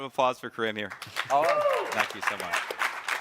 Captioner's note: crowd clapping and cheering